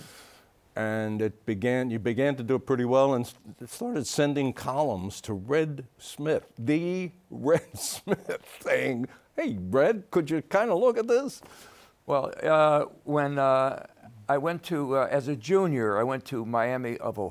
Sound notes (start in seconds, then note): 7.5 laughs